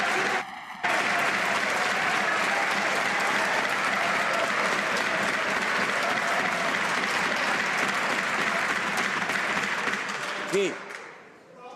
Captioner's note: some Applause